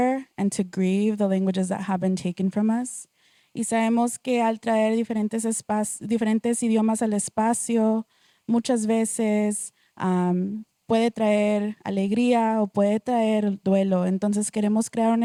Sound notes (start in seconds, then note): 3.5 speaking Spanish